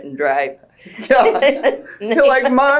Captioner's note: laughter